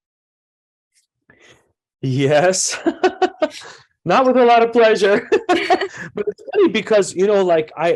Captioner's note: laughs; laughs again